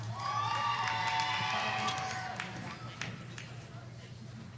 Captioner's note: audience cheering